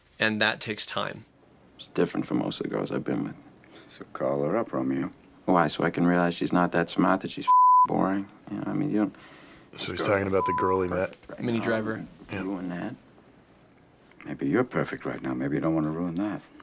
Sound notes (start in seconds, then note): 7.8 beeping